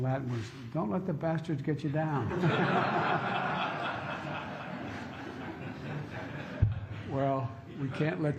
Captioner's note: laughter